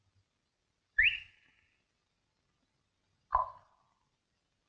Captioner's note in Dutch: fluiten; tong klikken